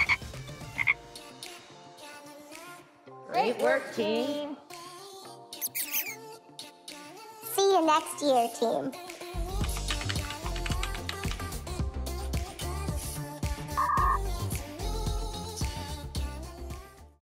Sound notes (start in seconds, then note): 0.0 mice squeak; 0.0 frogs noise; 5.6 mouse squeaks; 9.6 keyboard types; 12.2 upbeat music